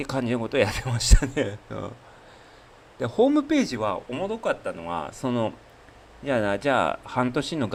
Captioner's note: laughs